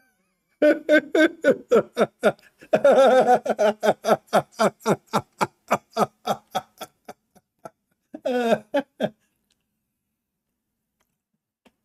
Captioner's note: Ketawa